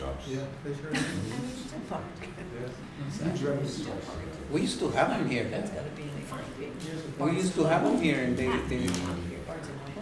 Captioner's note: background Conversation